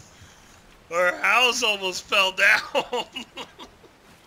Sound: laughs

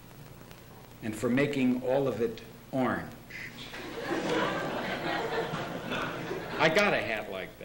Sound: laughter

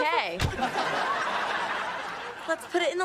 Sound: audience laughing

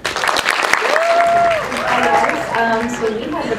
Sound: applause

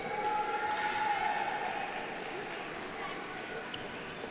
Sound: audience applauding

